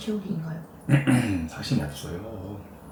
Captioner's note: ahem